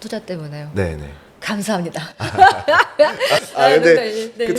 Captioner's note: laughs